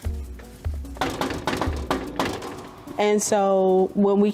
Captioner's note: door knocking